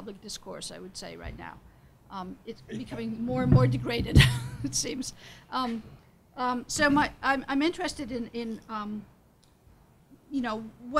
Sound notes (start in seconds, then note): 2.6 laughs; 2.9 speaks faintly